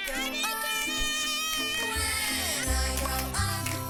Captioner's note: boy yelling